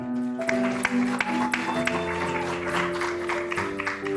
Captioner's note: applause